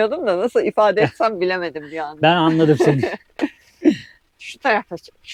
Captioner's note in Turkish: kahkaha